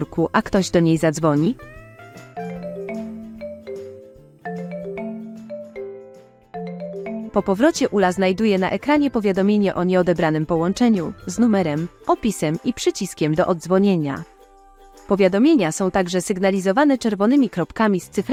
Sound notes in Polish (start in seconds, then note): 2.4 dzwonek telefonu